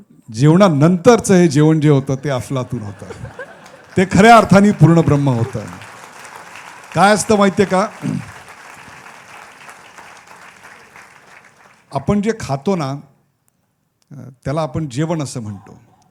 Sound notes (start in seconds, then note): 6.2 applause; 9.1 applause continues